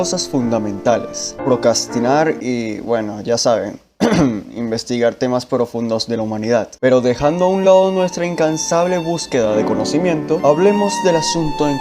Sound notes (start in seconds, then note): 4.0 cough